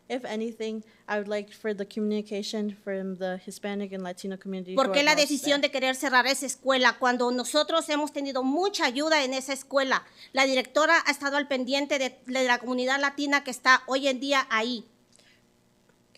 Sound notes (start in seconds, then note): 4.9 speaking Spanish